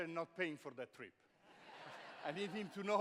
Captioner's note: laughter